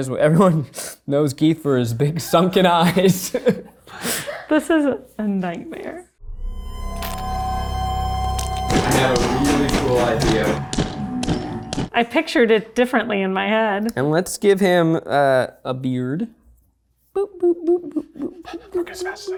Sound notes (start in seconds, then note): 6.2 ominous music; 11.1 hand bangs